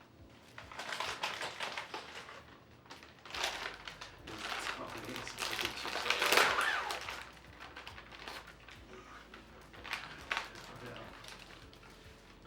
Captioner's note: chip bag crunching